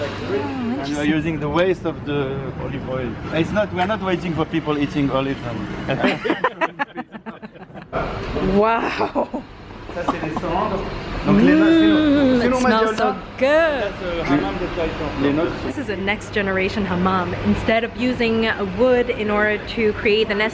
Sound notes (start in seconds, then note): 5.9 laughter